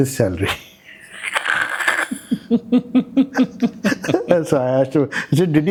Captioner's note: laugh